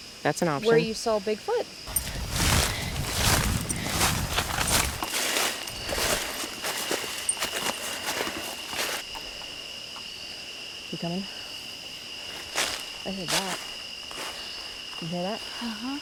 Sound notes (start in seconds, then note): 1.8 footsteps rustling; 5.2 crickets chirping